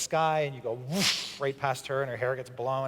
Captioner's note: vwoosh!